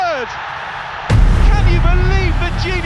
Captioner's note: crowd cheering; robust music